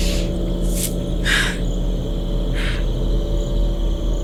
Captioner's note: breathing heavy